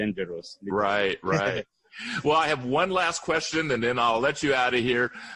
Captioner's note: chuckles